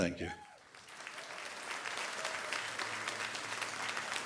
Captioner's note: audience applauding